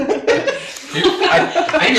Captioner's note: laughing